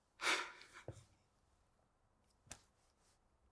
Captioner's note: sighs